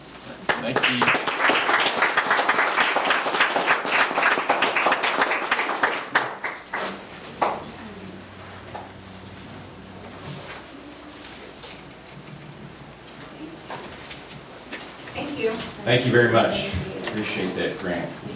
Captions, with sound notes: (crowd clapping) - Thank you. - Thank you very much, we appreciate that grant.